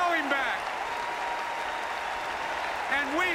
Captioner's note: applause